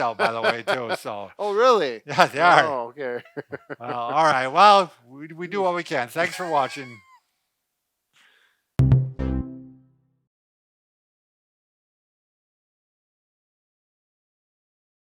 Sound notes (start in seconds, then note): 0.0 laughing; 2.2 laughs; 6.2 laughing; 8.8 upbeat music